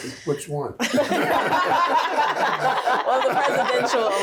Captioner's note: group laughs